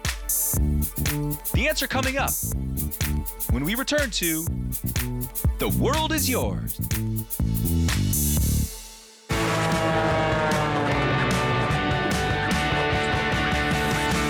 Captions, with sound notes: The answer coming up when we return to The World is Yours. (airplane whirring) (upbeat music)